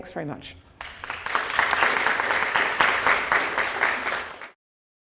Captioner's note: audience clapping